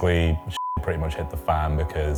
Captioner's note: beep